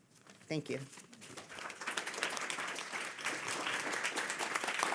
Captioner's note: audience applauding